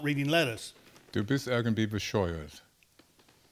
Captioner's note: speaking German